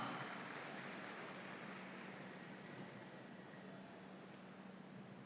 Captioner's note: audience applauds